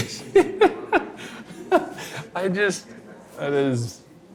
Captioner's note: laughing